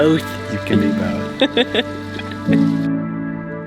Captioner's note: laughing; soft music